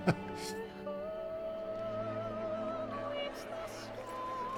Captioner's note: laugh